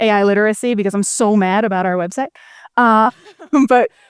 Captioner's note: laughs